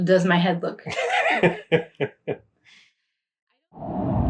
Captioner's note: laughing